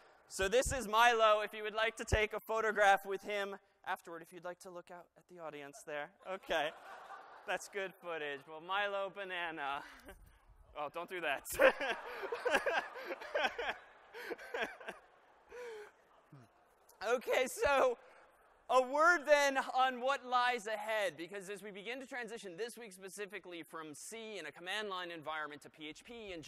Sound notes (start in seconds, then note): 11.4 laughter